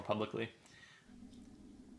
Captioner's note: electronic humming